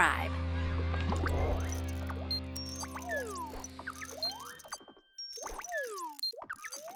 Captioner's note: techno music; liquid bubbling